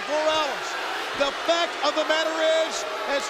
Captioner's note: crowd boos